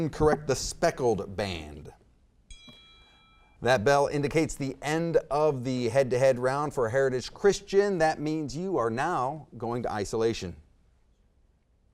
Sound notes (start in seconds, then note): 2.5 timer dings